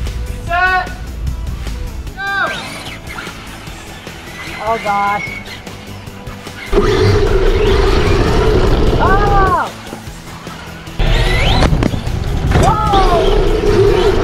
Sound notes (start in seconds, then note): 2.8 upbeat music; 6.2 upbeat music; 9.0 yells